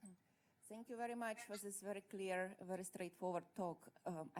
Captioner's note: voiceover